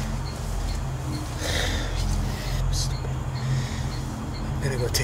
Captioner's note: sighs